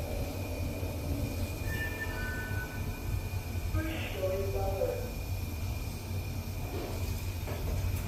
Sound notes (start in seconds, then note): 1.6 chime; 1.7 ding-dong